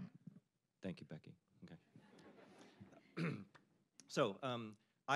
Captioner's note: audience laughing